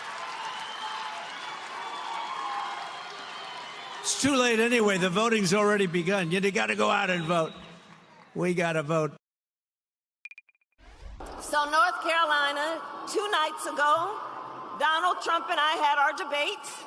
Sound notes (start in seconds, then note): 7.2 applause